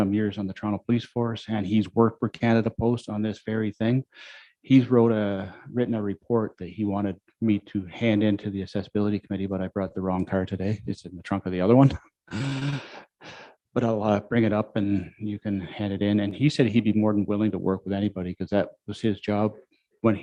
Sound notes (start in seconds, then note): 12.3 chuckles